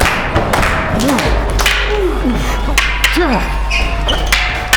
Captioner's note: both grunting